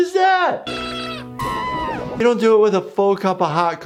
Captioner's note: Cuddles screaming